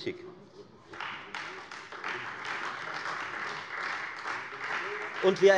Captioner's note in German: Beifall Freie Demokraten